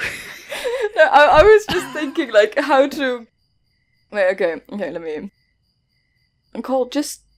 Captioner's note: laughing